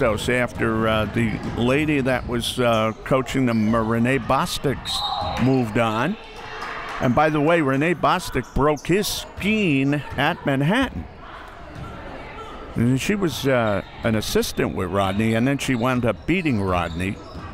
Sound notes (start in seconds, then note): 4.8 whistle